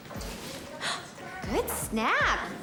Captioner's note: Elle gasps